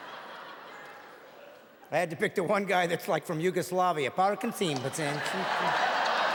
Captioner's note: audience laughing